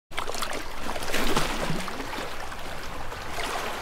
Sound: water sloshing

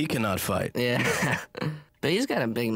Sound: laughs

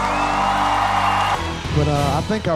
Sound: cheers and applause

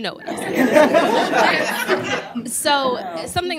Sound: laughter

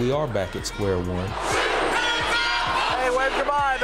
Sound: crowd chanting

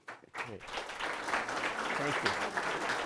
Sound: applause

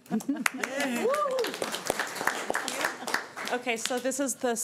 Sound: everyone applauding and cheering

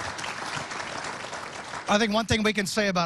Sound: applause

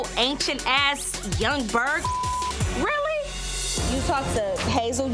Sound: beep

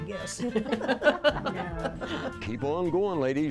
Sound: ladies chuckling

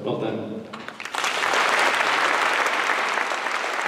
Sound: applause

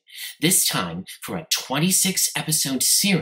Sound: none

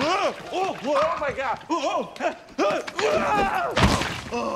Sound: exclaims; exclaiming, groans

